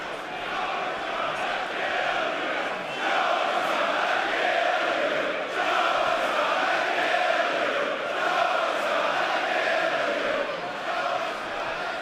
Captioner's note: fans chanting